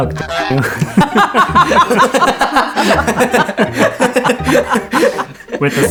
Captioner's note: laughing